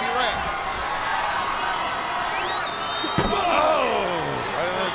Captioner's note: spectators cheering